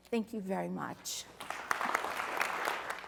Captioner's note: applause